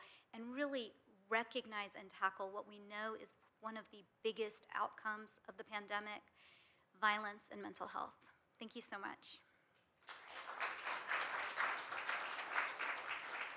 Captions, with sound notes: and really recognize and tackle what we know is one of the biggest outcomes of the pandemic, violence and mental health. Thank you so much. (audience applauds)